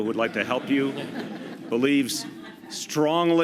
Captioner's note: laughter